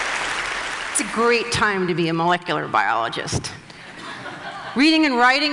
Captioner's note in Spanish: Risas